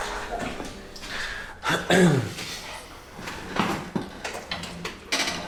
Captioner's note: Henri clears throat